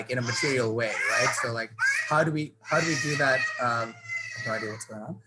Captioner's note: child crying